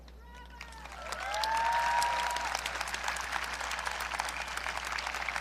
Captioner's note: audience applauding